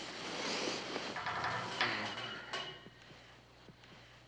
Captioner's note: metal rattling